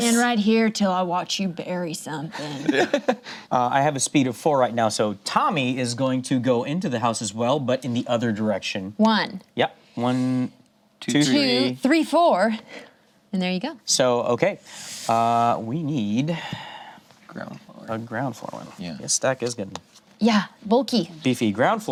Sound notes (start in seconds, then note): 2.4 laughs